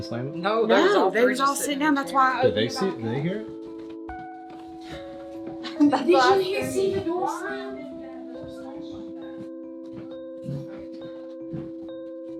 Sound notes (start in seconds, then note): 8.5 people mumbling